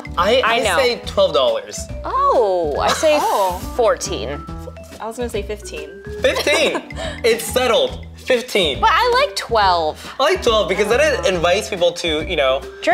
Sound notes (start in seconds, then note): 6.3 laughs